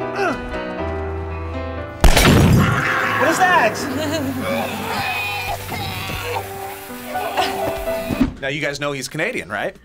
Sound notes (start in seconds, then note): 2.0 gunfire echoes; 3.4 laughs; 5.4 group coughing